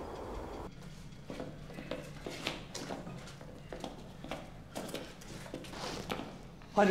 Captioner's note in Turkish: Ayak sesleri